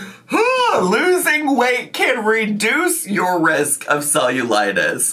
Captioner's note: exclaims